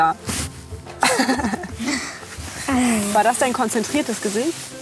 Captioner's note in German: lacht